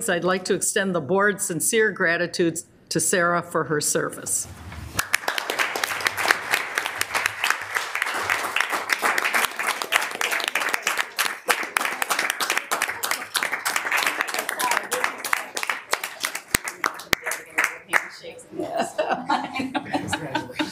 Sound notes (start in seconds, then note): 5.3 audience applauding